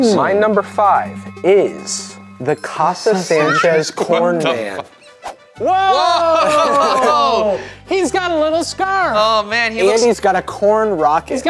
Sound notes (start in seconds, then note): 5.5 Ryan and Shane gasping; 5.9 laughing